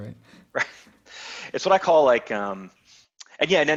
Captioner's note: laughs